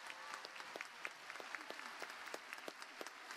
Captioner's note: applause